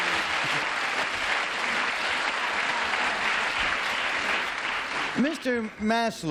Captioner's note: applause